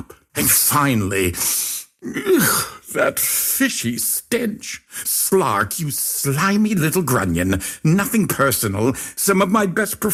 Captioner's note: inhale